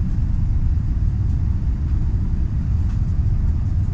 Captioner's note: engine whirring